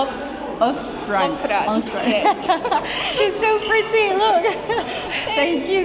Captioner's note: laughs, gives up